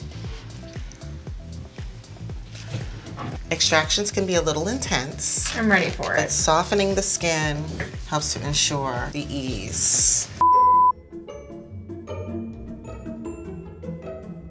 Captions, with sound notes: (gentle music) Extractions can be a little intense. - I'm ready for it. - But softening the skin, helps to ensure the ease. (beeping) (bouncy music)